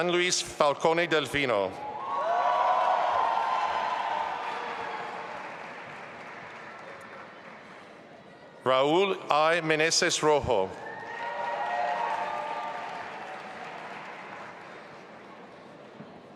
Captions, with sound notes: Gianluis Falcone Delfino. (audience applauding and cheering) Raúl I. Meneses Rojo. (audience applauding)